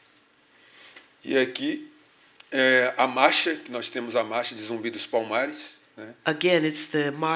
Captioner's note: speaking portuguese